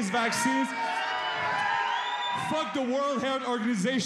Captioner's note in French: cris de la foule